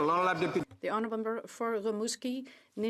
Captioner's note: speaking French